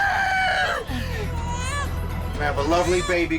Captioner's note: baby crying